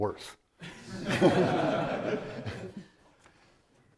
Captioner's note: audience laughing